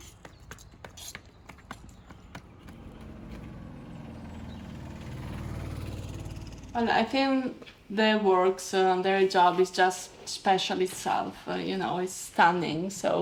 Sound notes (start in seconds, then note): 3.6 ape engine rumbling